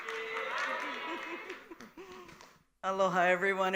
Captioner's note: audience replies in Indonesian